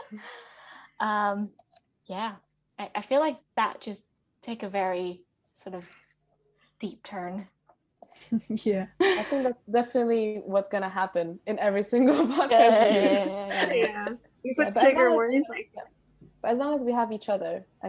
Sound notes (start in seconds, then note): 7.5 laughs; 13.5 PA overlaps; 13.9 laugh